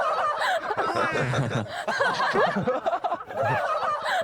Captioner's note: giggling